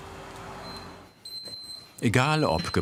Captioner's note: beeping